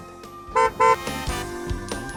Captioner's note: horn beeping